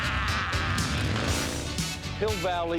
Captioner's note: engine revs